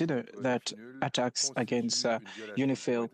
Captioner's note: speaking French